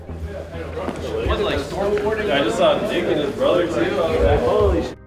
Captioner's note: people chattering indistinctly